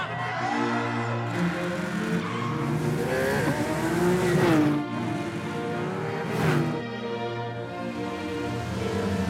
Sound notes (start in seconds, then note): 0.0 cheering; 2.2 tires screech; 3.4 engine revs